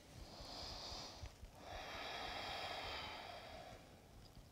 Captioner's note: slow steady breaths